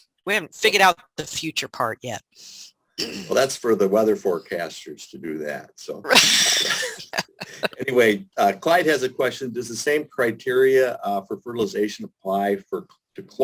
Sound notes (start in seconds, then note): 5.9 laughs